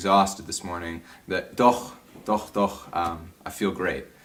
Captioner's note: speaks German